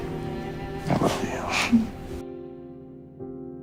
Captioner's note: June laughs